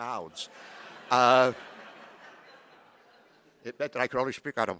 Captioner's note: chuckling